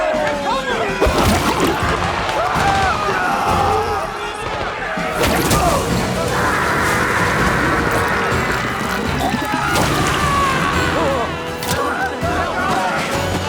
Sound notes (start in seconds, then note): 0.0 gunshots popping; 0.0 soldiers screaming; 2.9 soldiers screaming; 5.0 gunshots popping; 8.4 soldier sputtering; 10.2 soldiers screaming